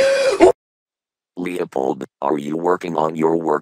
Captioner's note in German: screams